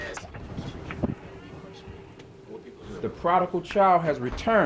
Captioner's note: door creaking